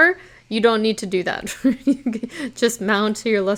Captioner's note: chuckles